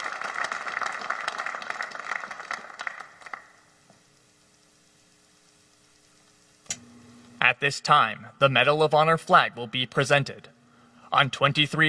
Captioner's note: applause